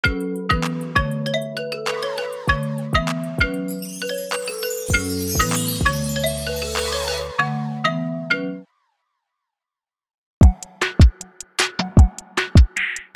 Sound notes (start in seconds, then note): 0.1 bright music; 3.6 whimsical twinkling; 10.4 upbeat music